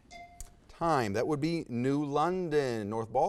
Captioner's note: whispers; bell dings